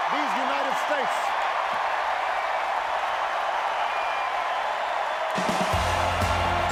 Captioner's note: applause